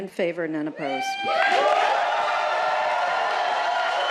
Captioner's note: cheering, applause